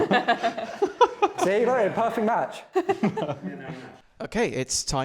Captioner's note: laughter